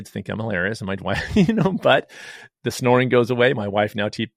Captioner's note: laughs